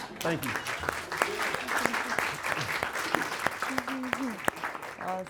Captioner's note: audience clapping